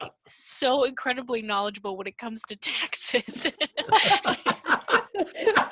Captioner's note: all laugh